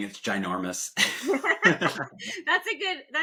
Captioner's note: laughs